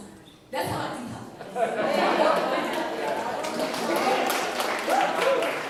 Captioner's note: applause